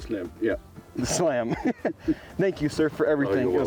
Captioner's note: laughs